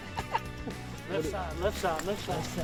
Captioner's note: laughter